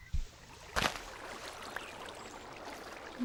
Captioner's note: running water sounds